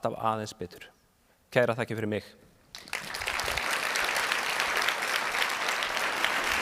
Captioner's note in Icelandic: fagnaðarlæti